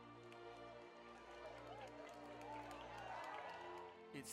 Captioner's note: people applauding